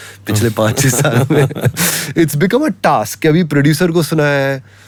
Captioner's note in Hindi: हंसी